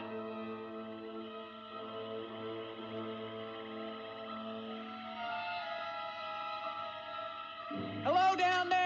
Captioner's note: suspenseful music; crickets chirping